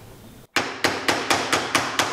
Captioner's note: hammering